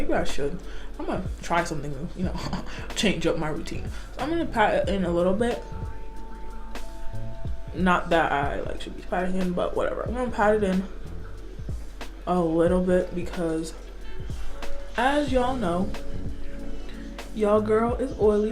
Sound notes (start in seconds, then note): 2.3 chuckles